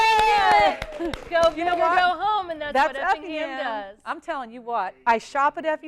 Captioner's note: applause